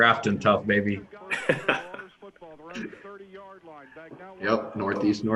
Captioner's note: all laugh